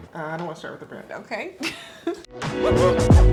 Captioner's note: laughs; upbeat music